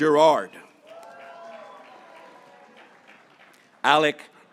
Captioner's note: graduates cheering